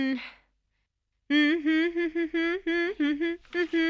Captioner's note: humming